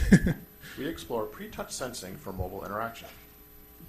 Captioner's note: voiceover